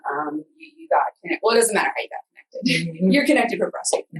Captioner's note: laughs